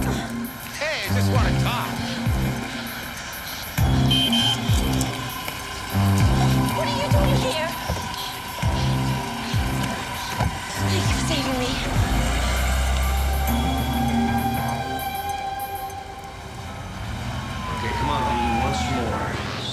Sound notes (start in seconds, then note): 4.3 car horn honking